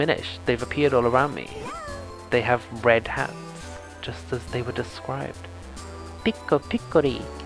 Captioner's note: minish voice